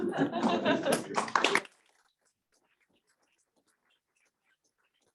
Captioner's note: audience applauding